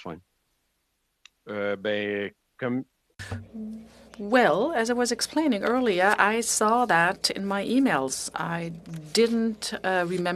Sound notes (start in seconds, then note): 4.9 speaking in French